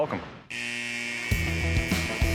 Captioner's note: buzzer